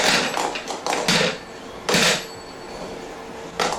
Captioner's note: bang, bang, bang, bang